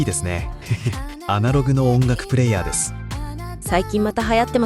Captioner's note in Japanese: わら